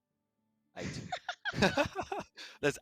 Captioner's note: Quick laughter break because of the "Prat Check"